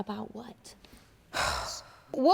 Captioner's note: sighs